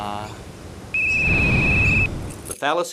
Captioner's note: blows whistle